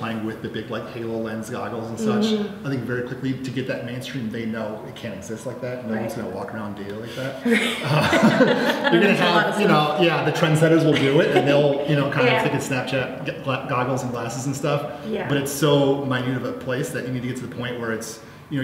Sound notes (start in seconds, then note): 7.4 laughter